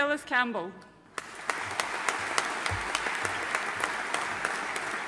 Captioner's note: audience applauding